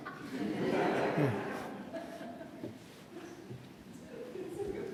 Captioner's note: laughter